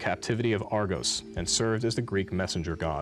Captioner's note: beep